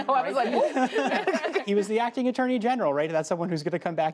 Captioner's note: laughter